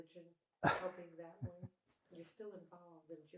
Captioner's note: laughing